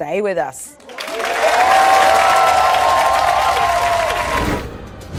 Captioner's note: audience applauds and cheers